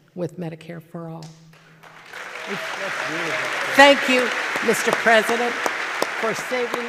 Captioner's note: applause